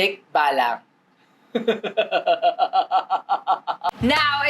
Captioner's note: evil laughter